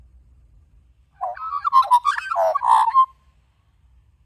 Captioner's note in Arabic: غناء طائر العقعق